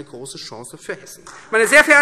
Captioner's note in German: Beifall Freie Demokraten